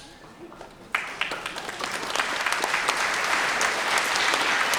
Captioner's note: everyone applauding